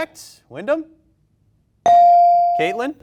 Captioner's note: bell dings